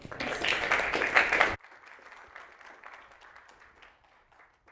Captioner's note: audience applauds